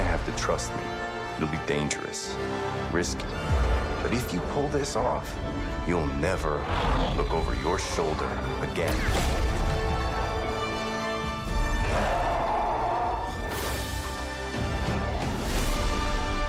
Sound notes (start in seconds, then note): 9.9 dramatic music playing; 13.7 loud roaring